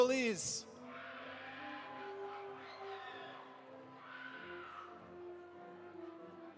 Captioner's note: audience applauding; audience cheering